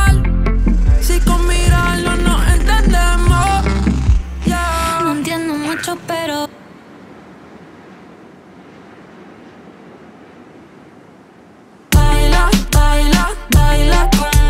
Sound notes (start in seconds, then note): 6.0 wind blowing